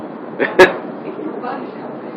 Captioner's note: laughing